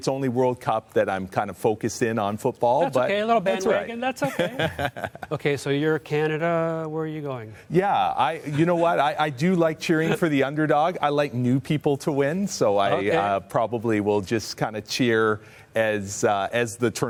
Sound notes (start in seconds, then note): 4.2 laughter